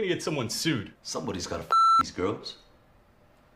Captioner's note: beep